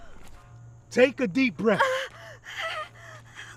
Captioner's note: Nyah gasping; groans